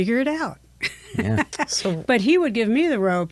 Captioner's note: laughs